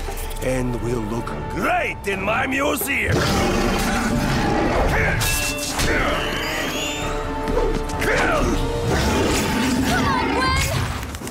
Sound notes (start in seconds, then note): 3.1 growling; 8.0 wincing